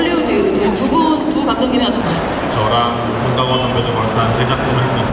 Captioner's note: speaking Korean